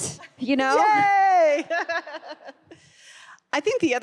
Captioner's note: laughs